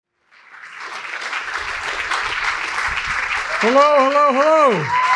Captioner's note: audience clapping